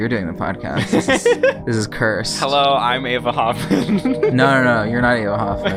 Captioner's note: laughs; laughs